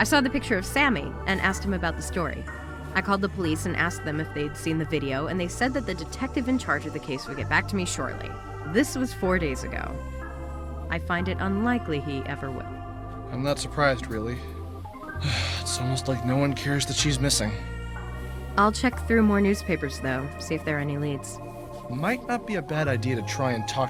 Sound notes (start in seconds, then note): 15.2 sigh